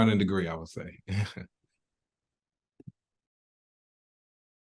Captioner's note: laughs